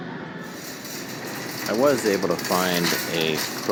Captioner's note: shopping cart rattling